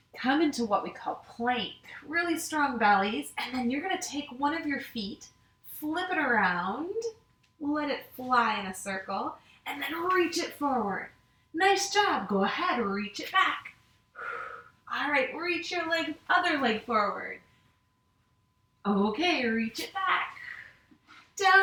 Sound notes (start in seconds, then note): 14.1 exhales